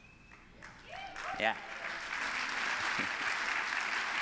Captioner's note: applause